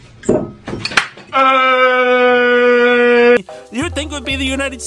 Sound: avocado abused crying

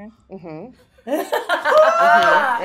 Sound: laughing

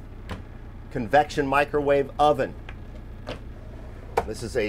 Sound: cupboards latching

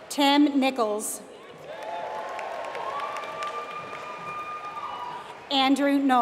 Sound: applause

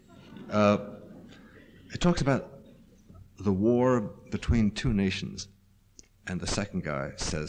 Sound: laughter

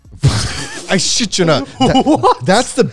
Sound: all laughing

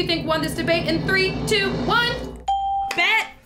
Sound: bell rings

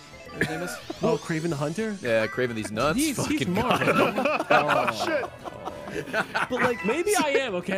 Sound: laughs

